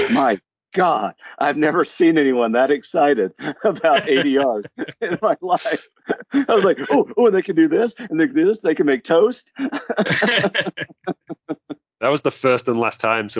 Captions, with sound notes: "My God, I've never seen anyone "that excited about ADRs in my life." [Panelists laugh] I was like, "Oh, they can do this, they can make toast." [Panelists laugh] That was the first and last time